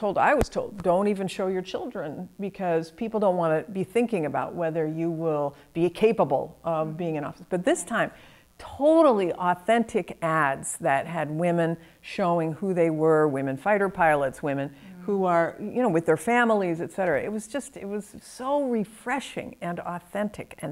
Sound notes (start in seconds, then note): none